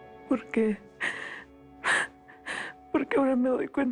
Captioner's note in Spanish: Sollozos